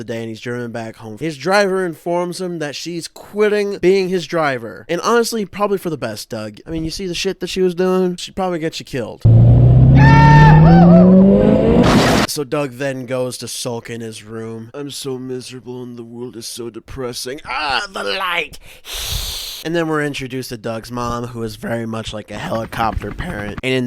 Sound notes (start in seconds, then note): 9.2 loud Car Revving, followed by a Goofy Yell and then a car crash; 18.9 vampire hiss